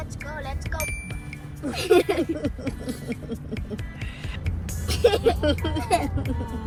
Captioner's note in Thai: เสียงหัวเราะ